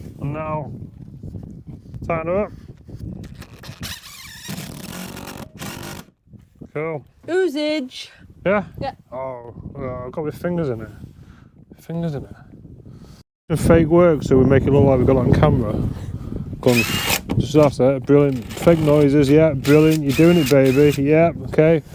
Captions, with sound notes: And now tighten it up. (drill whirring) Cool. - Oozage. - Yeah? - Oh, I've got my fingers in it. Fingers in it. The fake works, so we make it more like we've got on camera. (drill whirring) Just after that, brilliant. Fake noises, yeah, brilliant. You're doing it baby, yeah, okay.